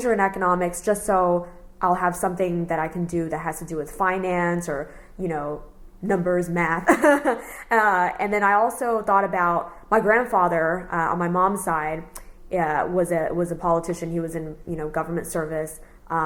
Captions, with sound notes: in economics just so I’ll have something that I can do that has to do with finance or, you know, numbers, math. [laughs] And then I also thought about my grandfather on my mom’s side, uh was a, was a politician. He was in, you know, government service, um